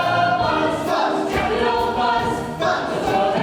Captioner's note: shouted